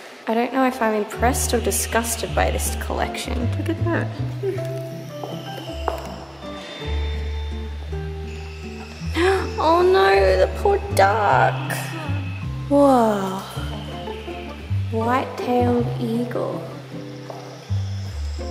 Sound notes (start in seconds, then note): 9.1 gasp